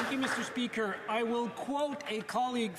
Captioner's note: some Applause